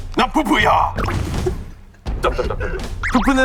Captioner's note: the original writer can't stop laughing